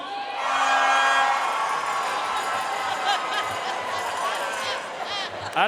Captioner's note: audience cheering and applauding